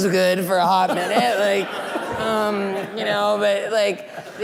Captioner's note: laughing